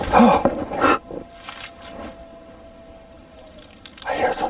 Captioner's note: creature howling